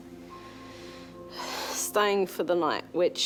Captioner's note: sighs